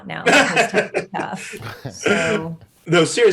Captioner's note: panelists laughing